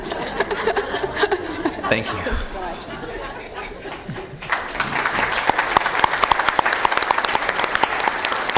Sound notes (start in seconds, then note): 4.4 laughter